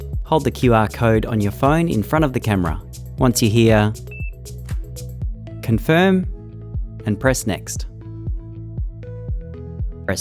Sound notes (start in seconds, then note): 4.1 device beeps; 6.7 lively music